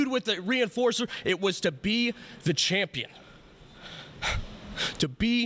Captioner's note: laughs